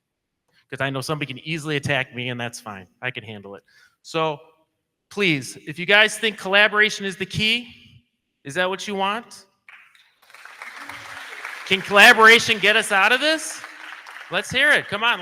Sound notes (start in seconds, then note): 9.7 crowd clapping